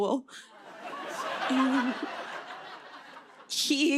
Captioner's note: laughter